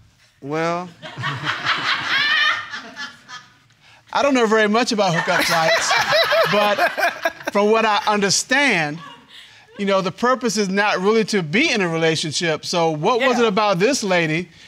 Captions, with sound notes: Well..(CROWD LAUGHING) I don't know very much about hookup sites. (EVERYBODY LAUGHING) But.. for what I understand. You know the purpose is now really to be in a relationship. So what was it about this lady,